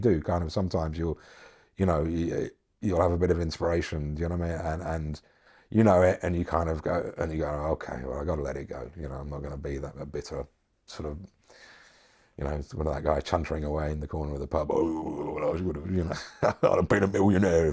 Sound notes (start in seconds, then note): 14.6 grumbling; 16.0 chuckles